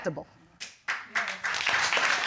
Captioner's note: applause